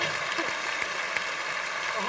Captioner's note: applause